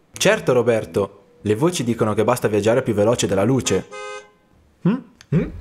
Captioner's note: noise of a horn